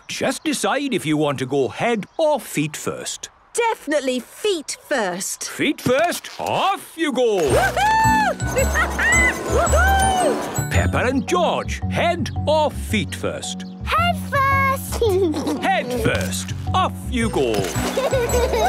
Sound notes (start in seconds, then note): 7.4 laughing; 15.0 giggles